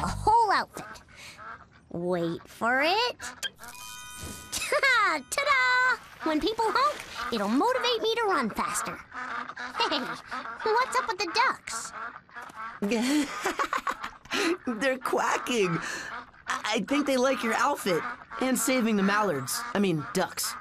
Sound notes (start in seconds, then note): 12.8 laughs; 13.8 ducks quack